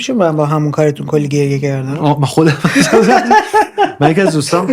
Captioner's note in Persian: خنده